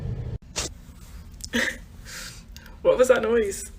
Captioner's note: laughs